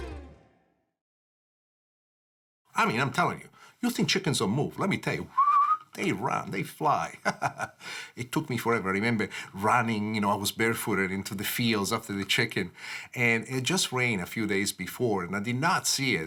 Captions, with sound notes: I mean I'm telling you, you think chickens don't move, let me tell you (whistles) they run, they fly! (laughs) It took me forever. I remember running, you know, I was barefooted, into the fields after the chicken. And it just rain a few days before, and I did not see it.